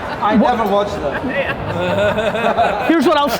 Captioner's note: group laughter